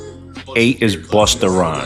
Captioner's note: audio from video clip